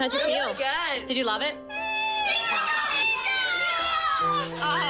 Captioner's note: cheering